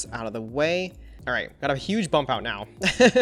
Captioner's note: laughs